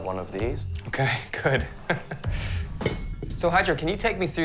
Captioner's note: chuckles